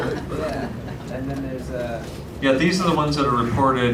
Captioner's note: laughter